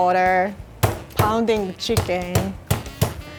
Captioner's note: pounding